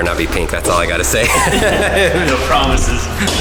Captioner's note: guys laughing